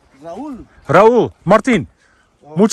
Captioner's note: with Spanish accent